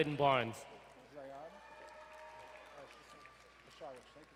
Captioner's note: crowd cheering